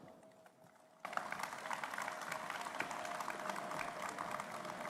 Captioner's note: applause